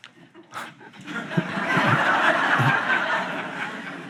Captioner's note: audience laughs